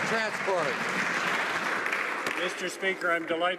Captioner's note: some Applause